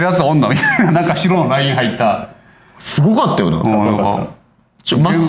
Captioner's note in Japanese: 笑い